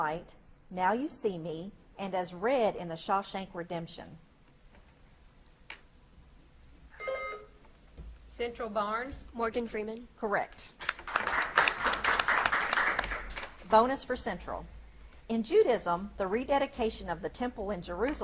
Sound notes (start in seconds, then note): 7.0 buzzer beeps; 10.8 audience claps